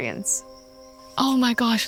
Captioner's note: insects chittering